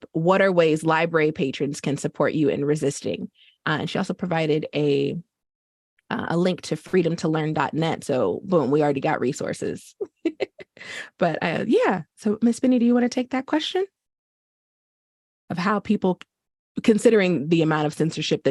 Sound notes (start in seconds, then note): 10.0 chuckles